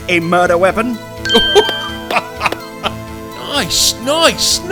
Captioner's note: laughing